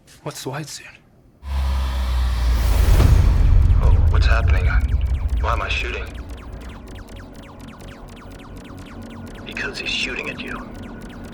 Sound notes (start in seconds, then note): 1.4 suspenseful music; 3.0 bullets whooshing; 3.0 ominous music